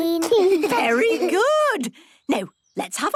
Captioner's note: children giggling